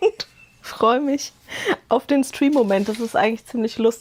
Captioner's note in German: Gelächter